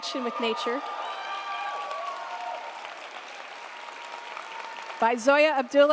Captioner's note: audience applauding